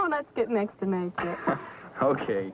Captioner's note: laughing